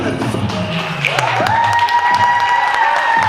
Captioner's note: cheers and applause